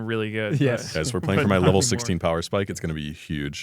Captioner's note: laughs